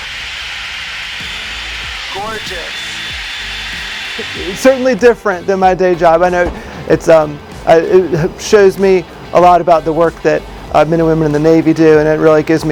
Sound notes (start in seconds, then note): 0.0 white noise